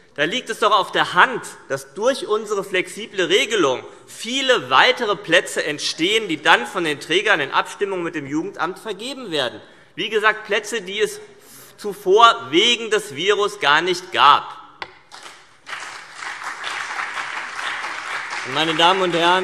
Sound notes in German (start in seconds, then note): 15.1 Beifall CDU und BÜNDNIS 90/DIE GRÜNEN